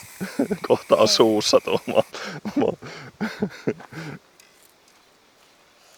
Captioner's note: laughter